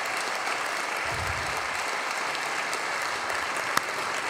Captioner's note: applause